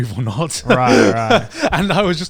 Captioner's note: laughs